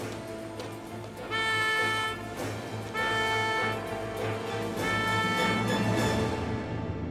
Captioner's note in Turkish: Düdük sesi